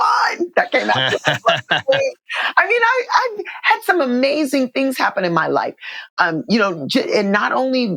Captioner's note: laughter